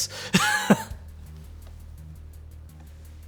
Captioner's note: chuckles